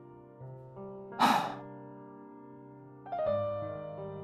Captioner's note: sigh